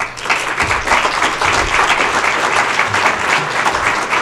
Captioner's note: applause